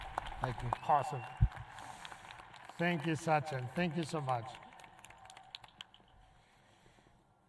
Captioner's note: applause